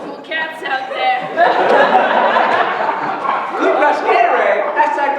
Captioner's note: laughter